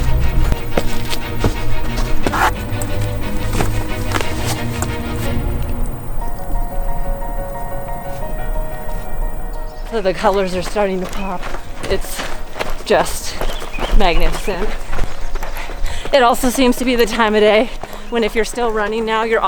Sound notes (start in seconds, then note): 10.6 birds tweeting